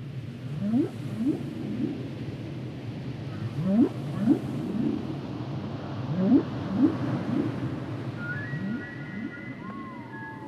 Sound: humpback whale song

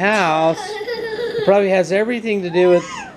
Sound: laughing

